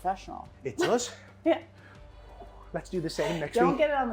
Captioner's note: laughs